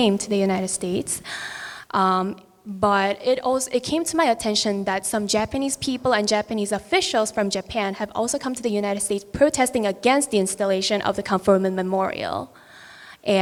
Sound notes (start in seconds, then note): none